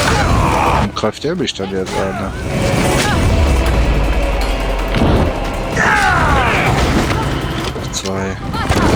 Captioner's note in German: stöhnen